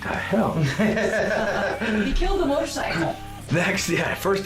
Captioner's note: laughing